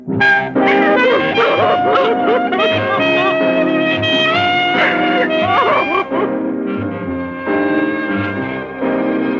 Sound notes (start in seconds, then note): 0.6 crying